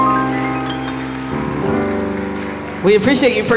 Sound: applause

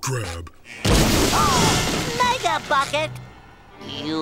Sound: gasping

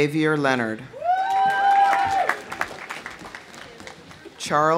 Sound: audience cheering; audience applauding

